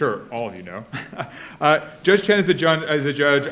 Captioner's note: laughs